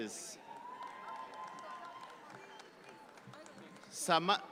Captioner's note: audience clap